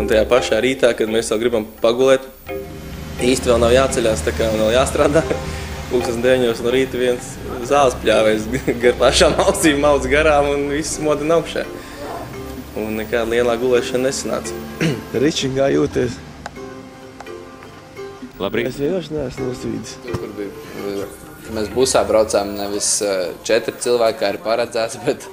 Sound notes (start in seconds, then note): 7.2 laughing